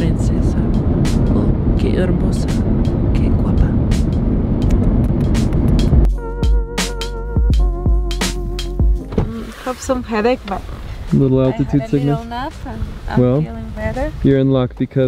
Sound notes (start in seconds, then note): 2.1 speaks foreign language; 4.8 lips smacking; 6.9 light music